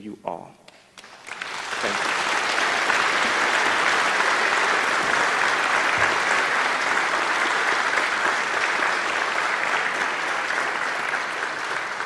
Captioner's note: applause